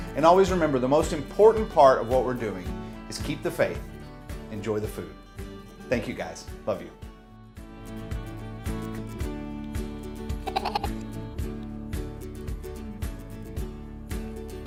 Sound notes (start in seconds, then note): 7.9 lighthearted music; 10.4 playful laughing; 11.5 lighthearted music